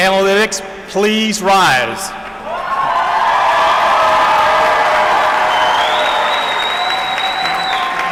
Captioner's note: applause